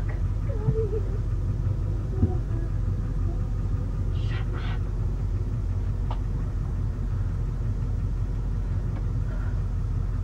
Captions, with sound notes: Oh fuck. (Cholie sobs) Shut up! (engine roars)